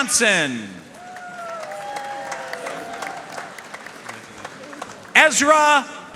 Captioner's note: audience cheering and applauding